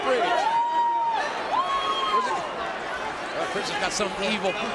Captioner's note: fan cheering